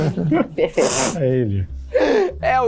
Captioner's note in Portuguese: risadas